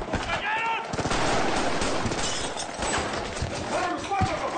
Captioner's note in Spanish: Disparos